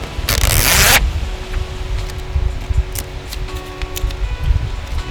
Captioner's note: sound of peeling; soft music